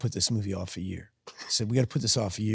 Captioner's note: Sydney laughs